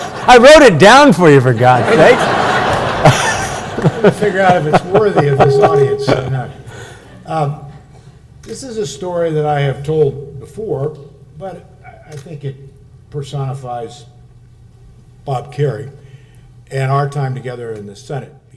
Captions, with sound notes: I wrote it down for you, for God's sakes! (laughs) (audience laughs) Trying to figure out if it's worthy of this audience or not. This is a story that I have told before, but I think it personifies Bob Kerrey and our time together in the Senate,